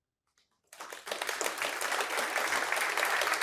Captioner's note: Applåder